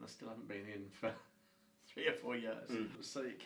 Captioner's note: chuckles